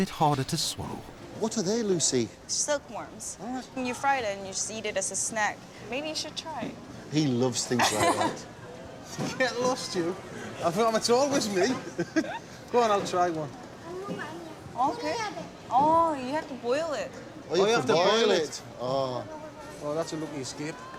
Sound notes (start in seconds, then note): 9.3 chuckling; 12.1 giggles; 15.1 speaking Korean